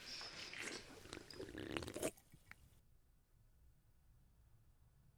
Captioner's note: drink slurping